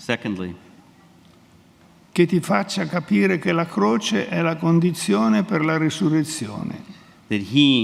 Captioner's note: speaks in Italian